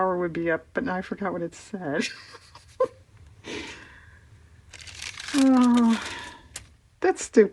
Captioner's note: laughs